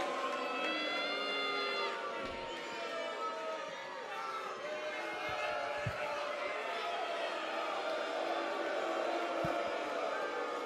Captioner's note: crowd cheering